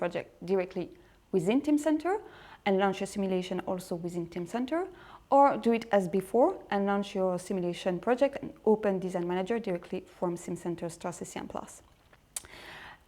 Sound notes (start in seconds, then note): none